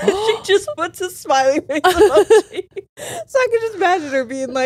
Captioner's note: all laughing